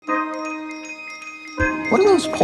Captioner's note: machine beeping